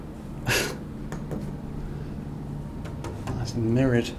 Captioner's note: chuckles